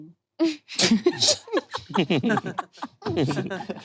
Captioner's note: group laughing